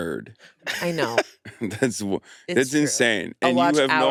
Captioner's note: laughs